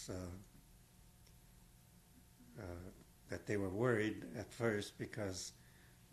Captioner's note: pauses for 3 seconds